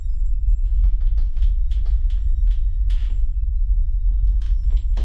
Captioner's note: floor creaking